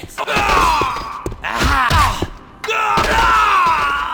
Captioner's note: shouting